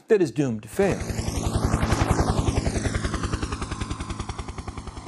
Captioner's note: sound of helicopter blades churning